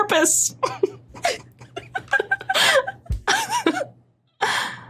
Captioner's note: group giggling profusely